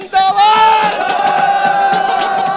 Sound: crowd Cheers

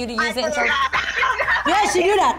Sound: laughing

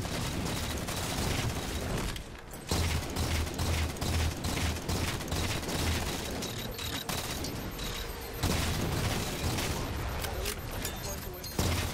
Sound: gameplay Audio

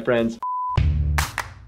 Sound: beep; playful music

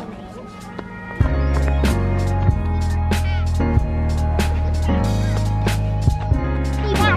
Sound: children playing; relaxing music

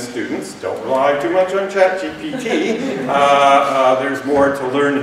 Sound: laughter

